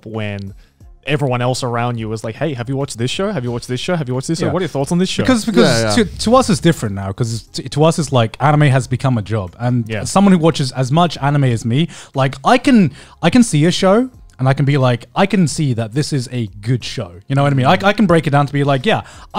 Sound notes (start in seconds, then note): none